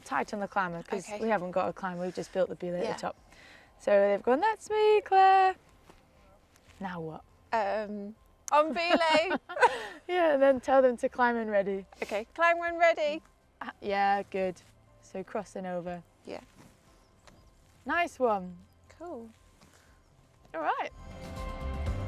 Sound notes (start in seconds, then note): 4.3 mimics shouting; 8.7 laughter